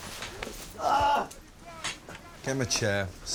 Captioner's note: screams